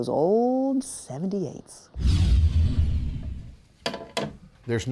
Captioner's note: air whooshing